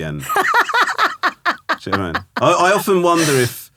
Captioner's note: laughing